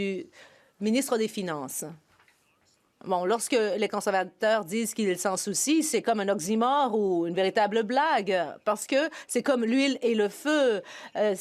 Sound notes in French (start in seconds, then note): 2.6 voix de l'interprète